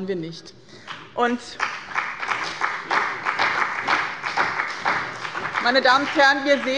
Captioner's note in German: Beifall bei dem BÜNDNIS 90/DIE GRÜNEN und der CDU